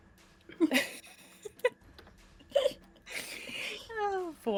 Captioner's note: laughs